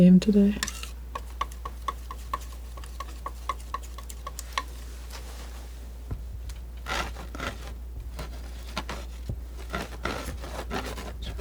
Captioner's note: scratching